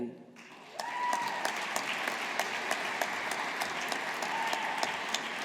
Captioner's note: audience applauding